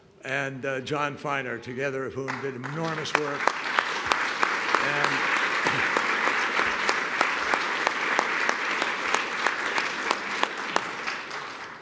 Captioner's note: applause